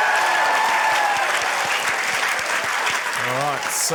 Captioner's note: cheering, applause